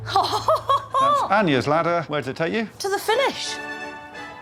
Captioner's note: laughs